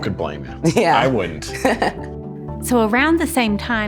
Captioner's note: laughing